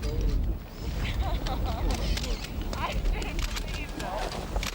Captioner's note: laughing